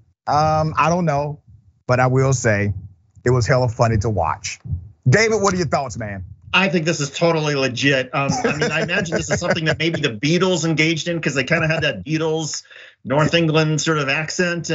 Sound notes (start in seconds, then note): 8.1 laugh